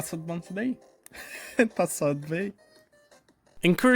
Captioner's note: chuckle